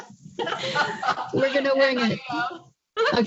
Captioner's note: laughter